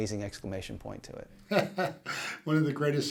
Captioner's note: laughing